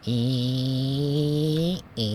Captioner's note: mouthed noise